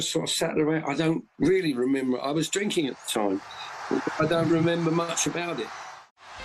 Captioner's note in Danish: Bifald